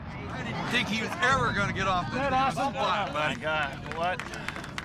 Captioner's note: people exclaiming, chatting